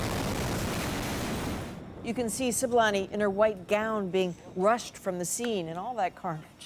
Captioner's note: bomb sounds